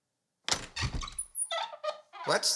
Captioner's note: door squeaks open